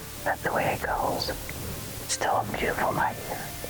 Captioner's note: soft rock music continues; whispering